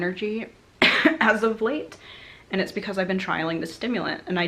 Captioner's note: cough